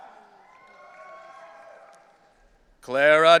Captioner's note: audience cheering